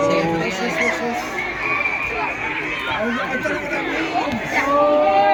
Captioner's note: rising crowd cheers/anticipation